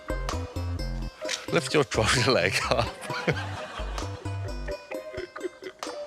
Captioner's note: chuckles